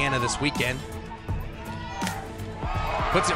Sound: ball connecting with bat

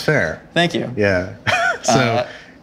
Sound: laughs

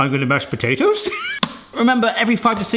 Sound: laughing

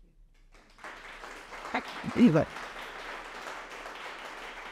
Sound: audience applauding

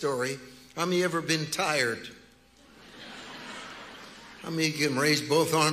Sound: congregation laughing

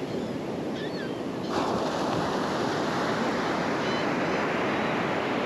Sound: the sounds of a flock of Laughing Gulls calling

